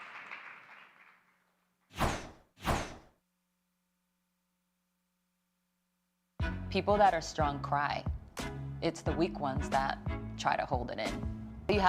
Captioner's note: applause